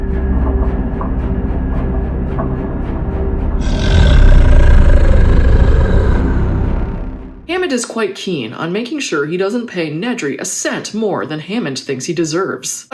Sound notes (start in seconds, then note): 3.6 deep growl